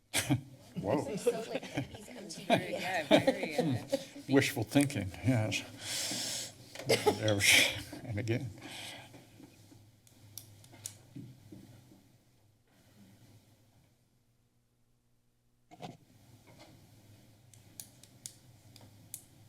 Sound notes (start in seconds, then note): 1.8 indistinct chatter; 10.6 silent